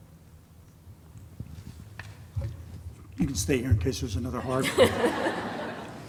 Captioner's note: laughter